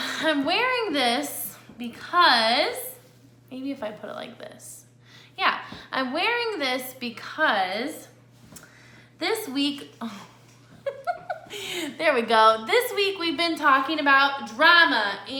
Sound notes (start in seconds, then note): 10.8 laughs